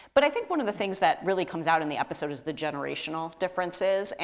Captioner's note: none